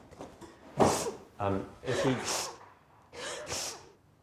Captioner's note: crying